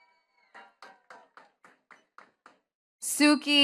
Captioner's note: attendees clapping